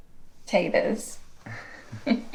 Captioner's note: Annabelle laughing; speaking in foreign language; Manny and Annabelle chuckling